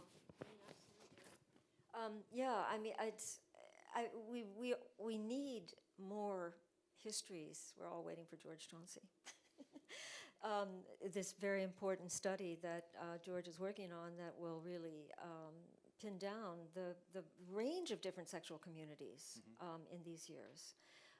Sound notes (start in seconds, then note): 9.3 chuckles